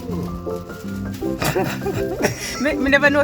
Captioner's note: laughing